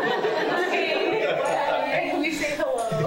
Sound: panel and crowd laughing

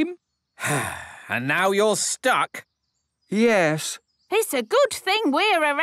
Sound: sigh

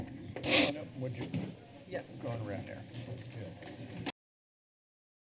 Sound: background conversations

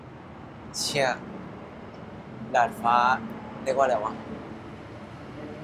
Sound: in Thai

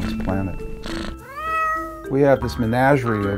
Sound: cat purrs, meows

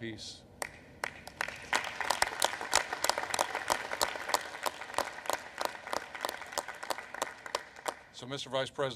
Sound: applause

